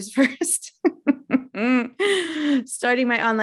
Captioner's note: giggling